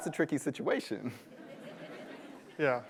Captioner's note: laughter